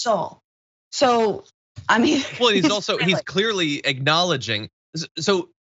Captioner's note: laugh